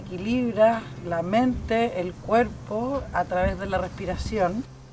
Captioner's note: speaking Spanish